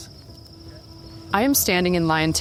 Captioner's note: insects chirping